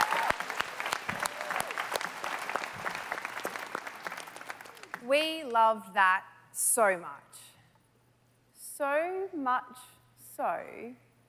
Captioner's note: applause